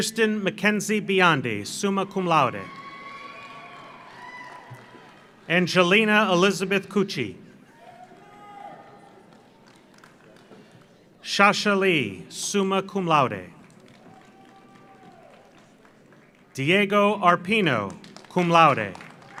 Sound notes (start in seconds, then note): 1.9 audience cheers; 2.6 audience applauds; 7.7 audience cheers; 8.7 audience applauds; 13.6 audience applauds; 13.9 audience cheers